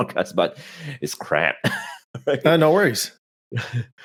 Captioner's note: chuckles